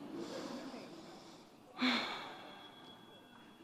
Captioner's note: sighs